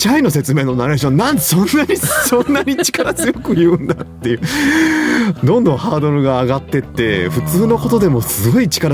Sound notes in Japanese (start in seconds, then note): 1.8 笑い; 2.8 息をのむ音